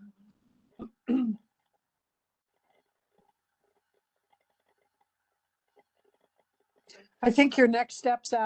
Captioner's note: cough